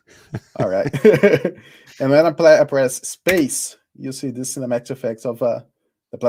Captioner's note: laughs